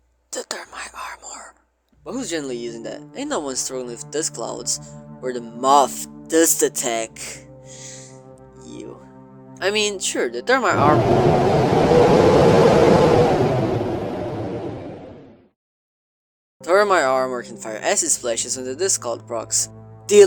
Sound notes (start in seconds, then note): 0.3 whispering; 7.6 inhale; 10.7 EXTREME wind sounds